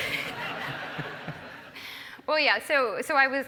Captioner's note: laugh